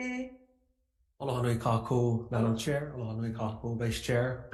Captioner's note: speaking in foreign language